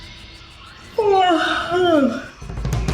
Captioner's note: Luna yawning; dramatic drum music continues